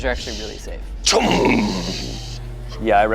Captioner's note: imitates power thudding